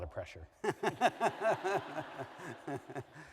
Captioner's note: laughter